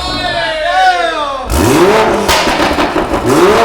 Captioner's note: engine revving